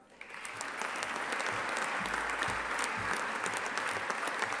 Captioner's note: audience applauding